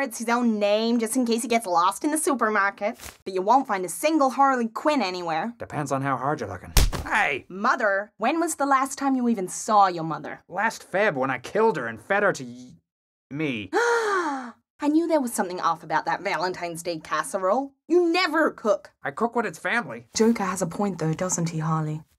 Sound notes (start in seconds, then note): 13.7 gasp